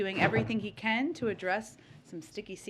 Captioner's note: staffer pulling chair seat down